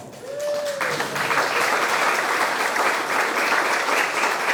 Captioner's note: audience clapping